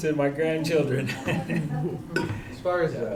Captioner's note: chuckles